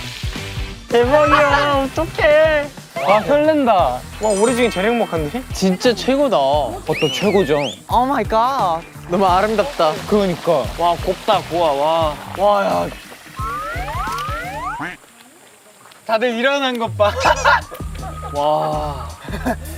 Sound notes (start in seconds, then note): 17.0 laughs